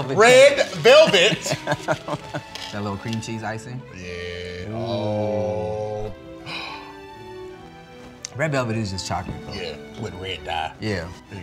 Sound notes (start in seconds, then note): 6.4 gasp